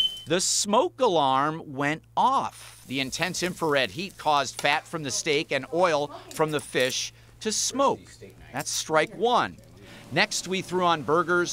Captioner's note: beeping